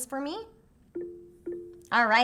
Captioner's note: screens beep